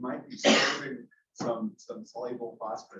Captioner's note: person sneezes